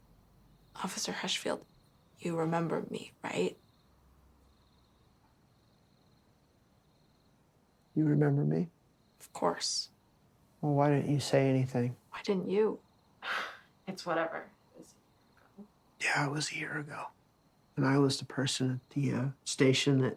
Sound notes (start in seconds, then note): 13.2 sighs